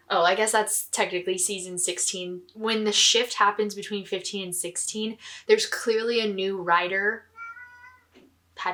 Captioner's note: cat meowing